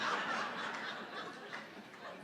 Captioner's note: laughter